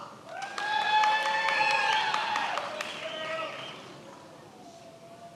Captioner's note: many applauding